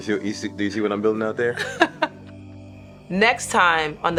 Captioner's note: laughing